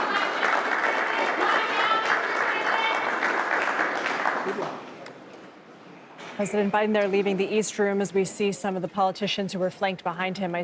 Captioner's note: applause